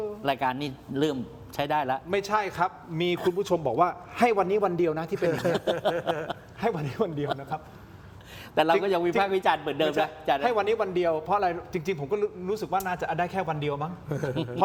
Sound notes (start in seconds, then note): 5.1 laughs